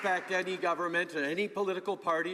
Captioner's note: some Applause